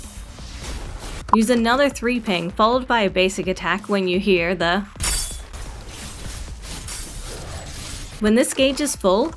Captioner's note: shing!